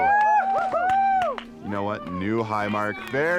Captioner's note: all cheer